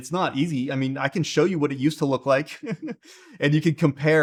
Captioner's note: chuckles